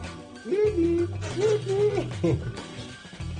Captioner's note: cooing